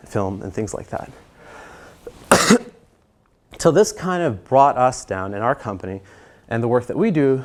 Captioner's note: cough